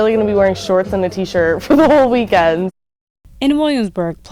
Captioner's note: chuckles